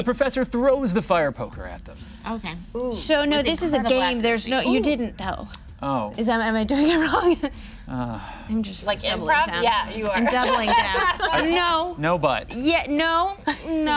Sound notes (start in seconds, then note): 7.6 Nox sighs; 9.9 others laughing